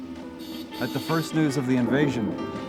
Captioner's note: horn beeping